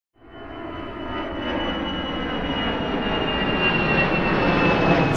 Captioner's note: plane engine roaring